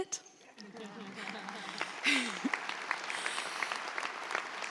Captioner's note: audience applauds